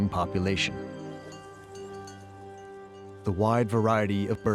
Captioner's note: bell clanging